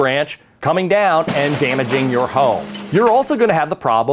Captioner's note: tree crashes